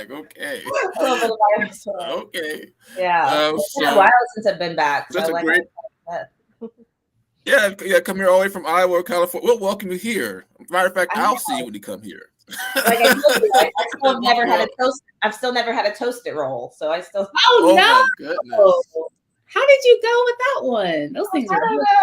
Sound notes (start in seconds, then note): 12.5 laughter